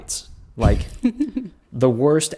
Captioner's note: laughs